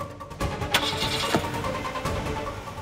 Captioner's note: shifts gear